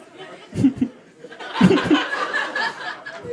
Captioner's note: giggles